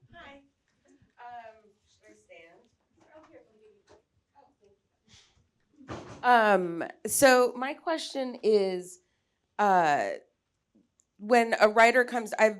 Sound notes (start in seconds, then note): 3.4 speaking faintly